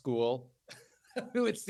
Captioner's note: laughs